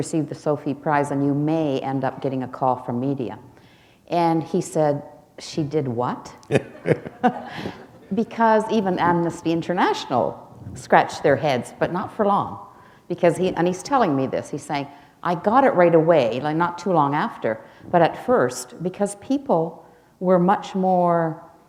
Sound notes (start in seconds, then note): 6.4 laughter